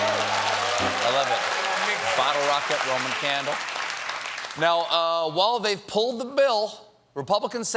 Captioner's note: applause